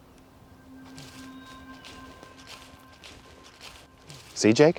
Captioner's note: footsteps pattering